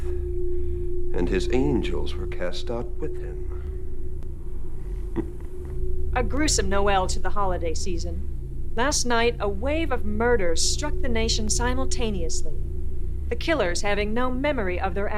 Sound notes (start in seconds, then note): 5.1 laughs